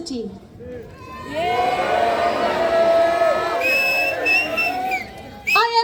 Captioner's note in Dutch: Gejuich